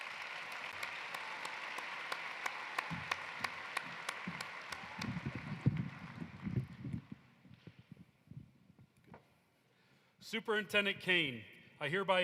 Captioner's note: applause